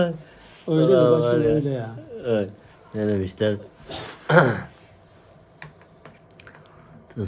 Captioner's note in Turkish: homurdanır